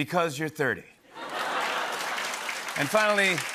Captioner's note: laughter and applause